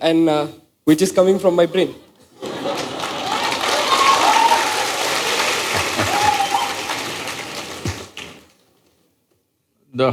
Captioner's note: cheers/Laughter/Applause; laughs